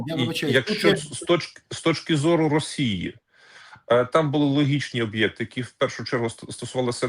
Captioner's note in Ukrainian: сміх